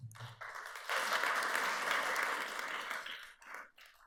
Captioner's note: audience applauds